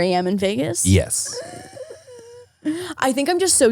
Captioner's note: gasping